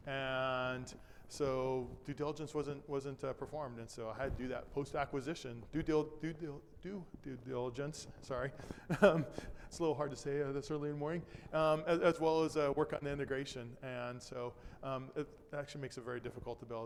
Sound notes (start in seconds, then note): 8.6 chuckles